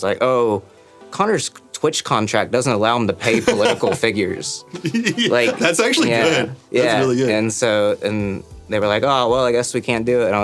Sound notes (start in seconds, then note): 3.2 laughing